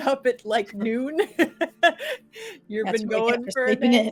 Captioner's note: laughing